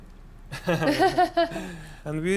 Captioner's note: both laugh